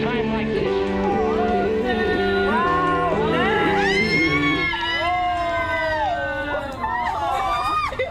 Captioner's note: cheering; laughing